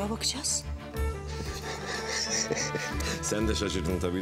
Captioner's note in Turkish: Gülüyor